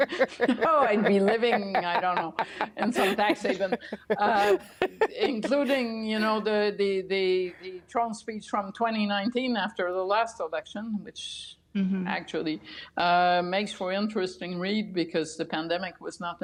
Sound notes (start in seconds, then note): 0.0 laughter